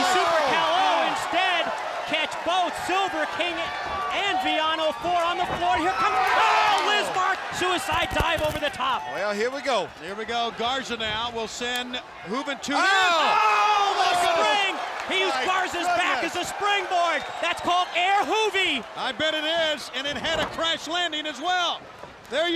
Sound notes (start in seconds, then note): 13.9 crowd cheering